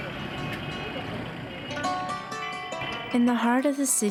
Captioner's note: vehicles passing; horns honking